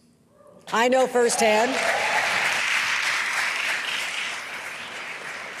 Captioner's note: applause